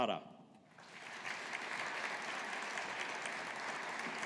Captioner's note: audience applauding